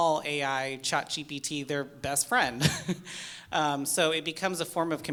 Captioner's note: chuckles